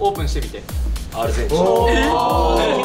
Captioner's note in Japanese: イケボ